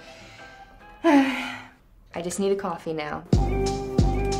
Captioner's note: sigh; smooth music